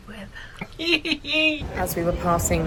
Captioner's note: laughs